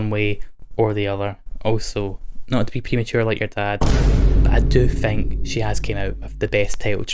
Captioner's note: boom